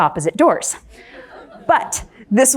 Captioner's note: crowd laughs